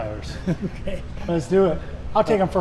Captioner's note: Richard chuckles